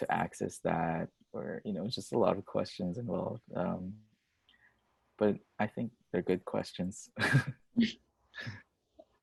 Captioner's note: laughs